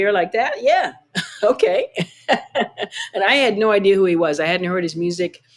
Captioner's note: laughter